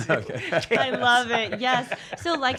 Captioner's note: laughs